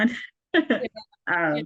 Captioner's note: laughs